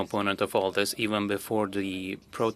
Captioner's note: speaking French